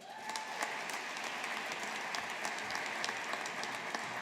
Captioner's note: audience applauding